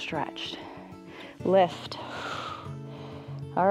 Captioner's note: exhales